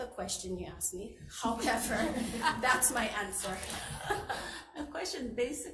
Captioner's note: all laughing